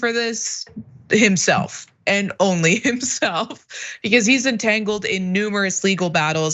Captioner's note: laugh